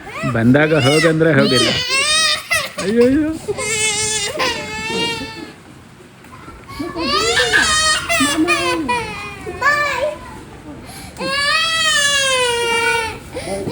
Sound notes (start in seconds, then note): 0.2 laughs; 6.7 crying, screaming; 11.2 more crying and screaming